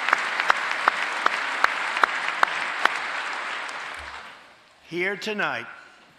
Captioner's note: applause